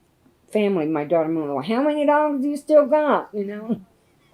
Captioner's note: laughs